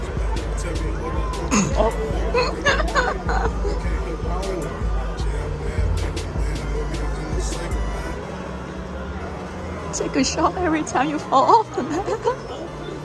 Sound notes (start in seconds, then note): 2.2 wheezing x 3.14 in front of my helpless husband